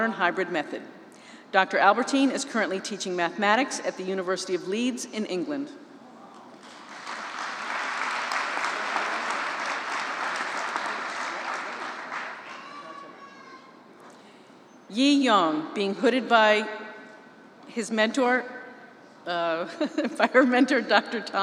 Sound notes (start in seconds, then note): 6.6 applause